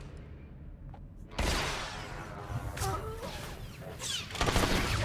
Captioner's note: gun firing